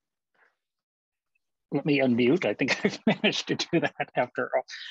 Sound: laughter

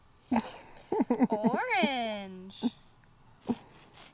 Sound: videographer laughs

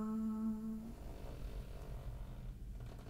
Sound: rope creaking

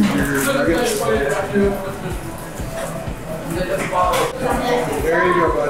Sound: background people chattering

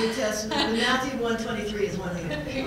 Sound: laugh

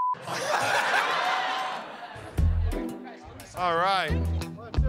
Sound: laughter

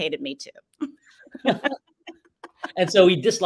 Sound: laugh

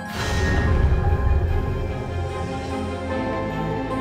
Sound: mysterious music; fire blazing

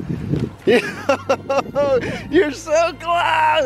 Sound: laughter

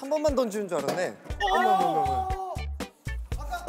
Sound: falling bottle

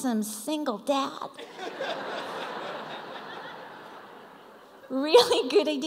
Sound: laughter

